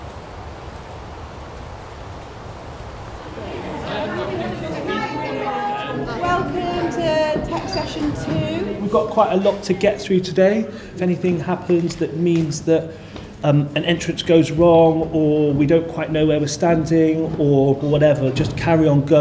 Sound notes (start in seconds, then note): 3.2 chatter